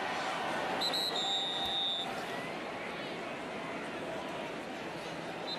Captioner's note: whistle blowing